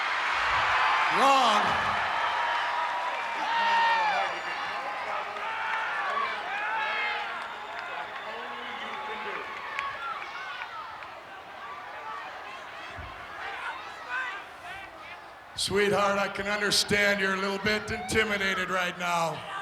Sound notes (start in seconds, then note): 2.3 applause